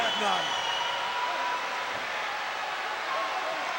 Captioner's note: crowd yelling